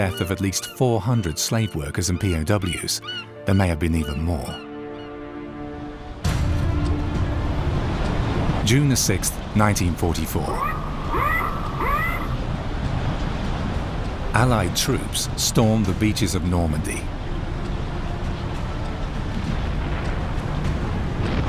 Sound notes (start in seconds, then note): 5.3 heavy intense music; 10.4 squawking; 11.3 waves crashing; 18.7 intense music